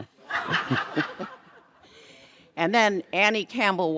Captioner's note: audience laughs